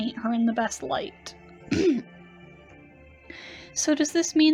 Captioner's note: clears throat